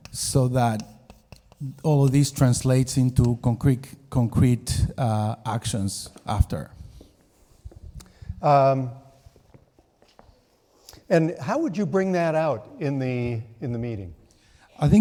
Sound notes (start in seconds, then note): none